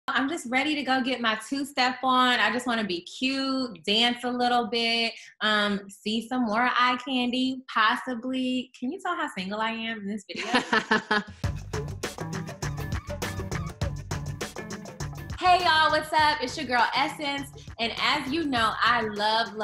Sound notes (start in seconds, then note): 10.4 laughing; 12.1 upbeat music